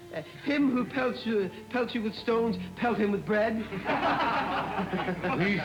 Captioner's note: laughter